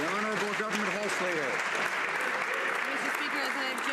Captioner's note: some Applause